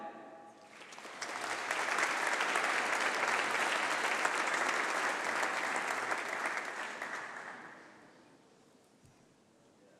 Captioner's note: applause